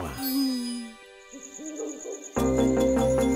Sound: owl hooting

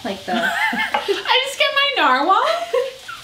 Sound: laughs

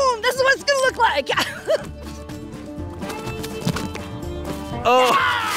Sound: laughing

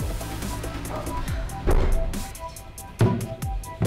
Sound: Ava sighs

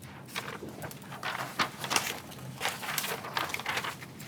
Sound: papers rustling

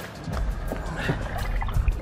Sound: grunts

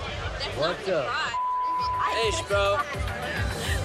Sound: beep

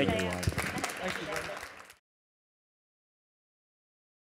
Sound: audience applauds

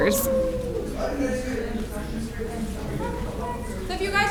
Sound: audience members cheering

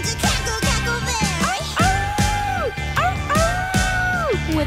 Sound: howling

